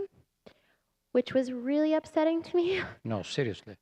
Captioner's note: laughter